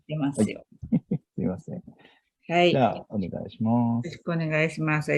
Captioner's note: laughs